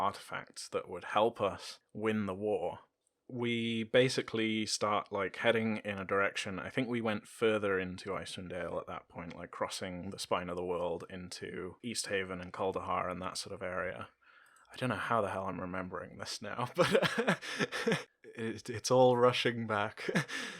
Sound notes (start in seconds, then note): 14.4 laughter